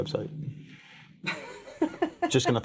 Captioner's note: laughing